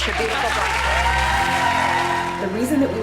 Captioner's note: audience applause